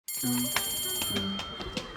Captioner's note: school bell rings